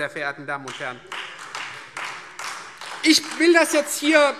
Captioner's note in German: Beifall Freie Demokraten